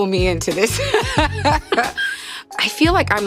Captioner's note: both laughing